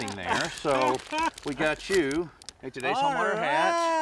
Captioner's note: laughs